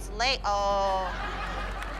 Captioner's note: laughter